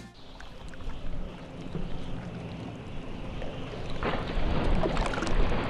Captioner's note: dolphins whistling